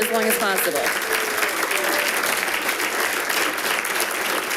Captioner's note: audience applauding